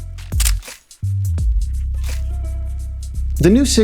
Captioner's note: camera clicks